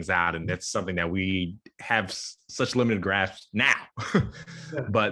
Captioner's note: chuckles